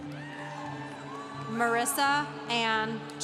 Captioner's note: congregation cheering